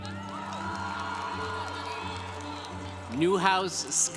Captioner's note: congregation cheering